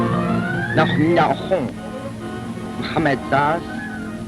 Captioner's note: Arabic